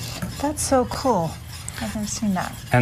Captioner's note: whisking Sound